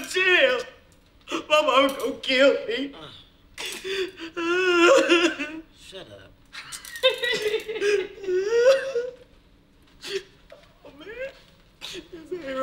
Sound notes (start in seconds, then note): 0.0 crying; 6.5 laughing